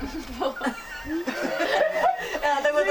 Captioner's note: everybody laughing